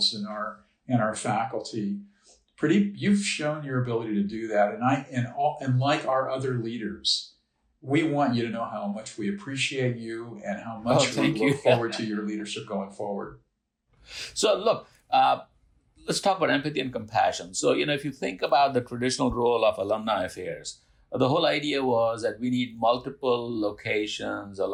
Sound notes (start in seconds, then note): 9.7 laughing